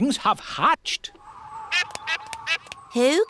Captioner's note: all quacking